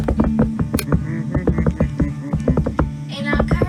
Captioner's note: drumming; humming